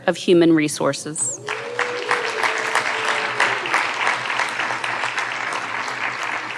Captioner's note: audience cheering and applauding